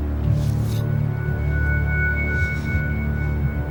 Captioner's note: whirring